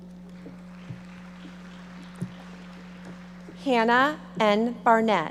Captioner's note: audience applauding